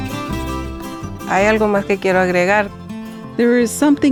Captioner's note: speaking spanish